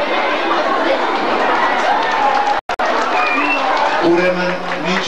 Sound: applause

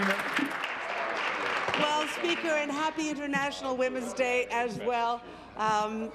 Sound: applause

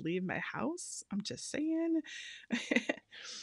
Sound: laughing

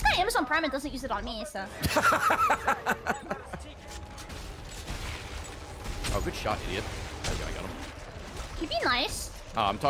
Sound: laughs

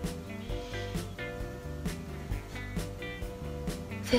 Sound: sighs

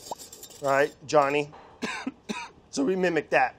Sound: coughs

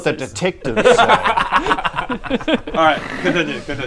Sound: very bad idea giggles

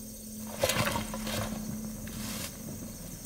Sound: clanking of armor

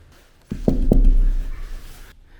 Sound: knock, knock

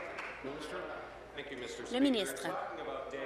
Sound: applause

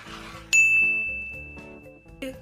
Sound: bell rings

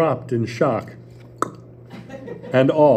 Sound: pop sound

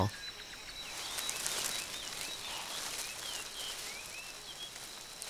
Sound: leaves rustling

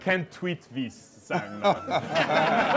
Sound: laughter

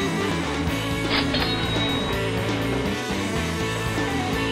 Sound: rock music; cash register ringing

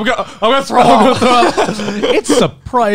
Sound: everyone laughs

